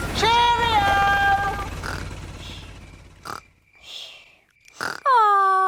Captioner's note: baby alexander snoring